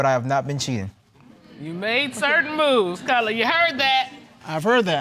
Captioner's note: audience exclaims